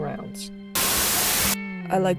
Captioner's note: Static